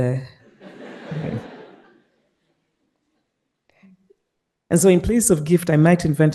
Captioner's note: participants laughing